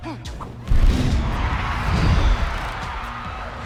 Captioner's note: crowd cheers